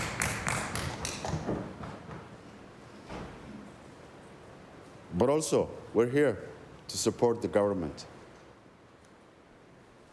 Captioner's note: applause